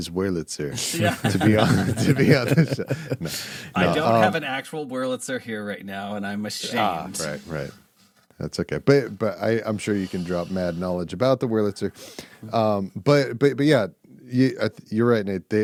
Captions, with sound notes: Wurlitzer to be honest. (laughing) I don't have an actual Wurlitzer here right now and I'm ashamed. Right, right. That's okay. But I'm sure you can drop mad knowledge about the Wurlitzer. But yeah, you're right Nate,